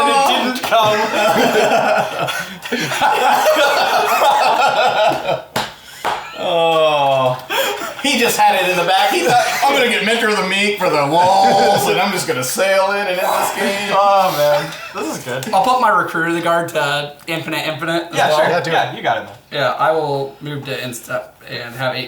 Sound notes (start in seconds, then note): 4.9 laughing